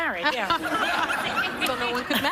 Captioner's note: laughter